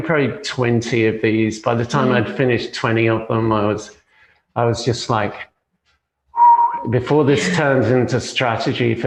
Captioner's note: whistles